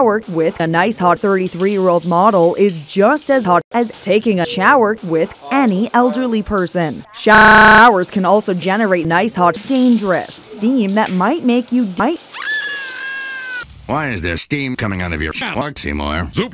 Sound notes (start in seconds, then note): 12.3 highly unconvincing scream